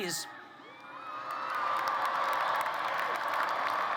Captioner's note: applause